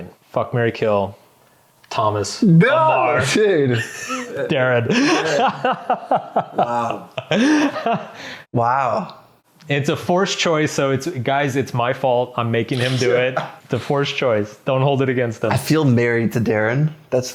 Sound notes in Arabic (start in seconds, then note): 3.6 يضحك; 8.3 يضحك